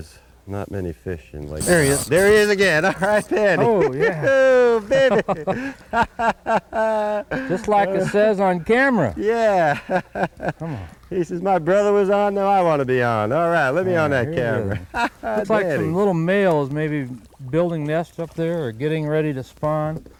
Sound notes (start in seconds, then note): 9.2 laughter